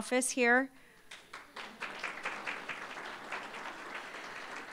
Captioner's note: applause